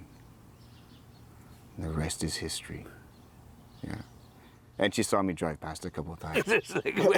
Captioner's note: laughs